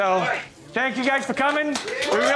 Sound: cheers

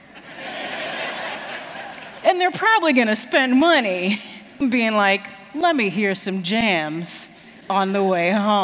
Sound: laughter

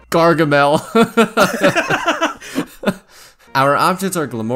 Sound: laughter

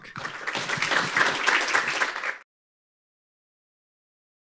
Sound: audience applauding

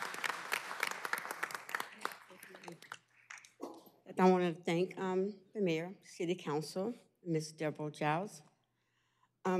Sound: applause

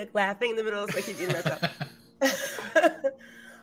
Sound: laughs

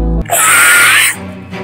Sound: screaming

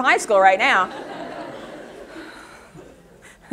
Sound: audience laughter

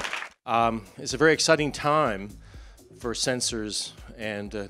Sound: applause

